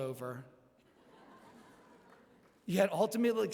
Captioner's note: laughter